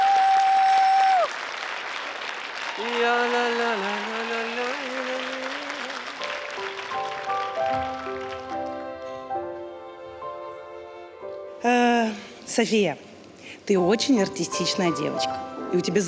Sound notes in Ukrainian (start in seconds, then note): 0.0 оплески